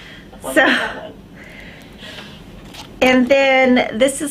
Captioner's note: both chuckle softly